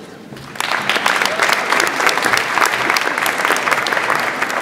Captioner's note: audience applauds